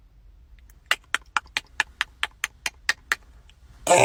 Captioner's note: tick tock-tock tick tock-tock tick tock tock